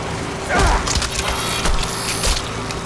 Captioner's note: grunting